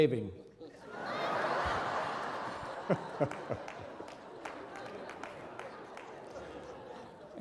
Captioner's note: audience and reverend laughing